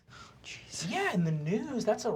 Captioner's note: whispering